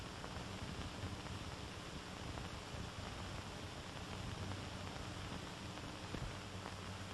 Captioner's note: none